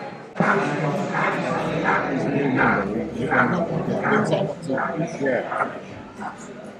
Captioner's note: steam locomotive chuffing